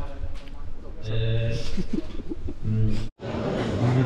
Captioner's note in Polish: laugh